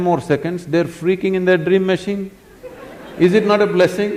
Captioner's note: laughter; 笑聲